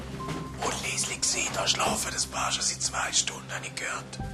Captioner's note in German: Flüsternd